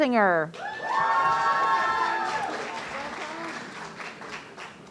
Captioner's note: audience cheering